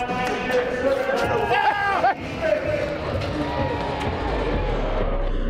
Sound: supporters cheering

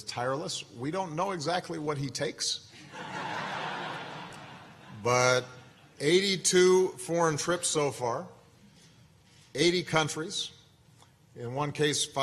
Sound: laughter

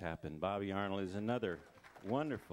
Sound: crowd applauding

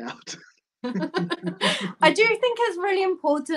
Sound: laughter

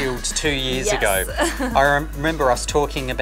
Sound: laughs

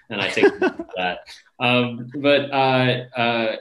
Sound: laughter drowns speaker

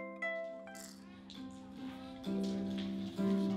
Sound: seeds clattering

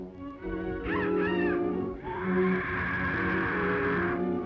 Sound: bird squawking

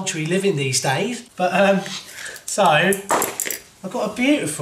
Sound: laughs

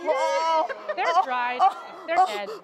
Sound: whining and groaning

